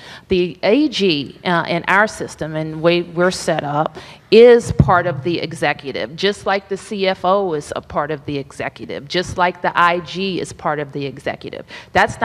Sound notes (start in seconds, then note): none